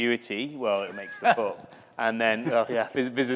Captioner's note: laughter